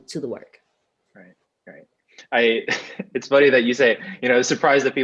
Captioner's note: laughs